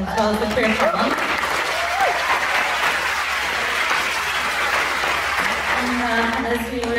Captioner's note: applause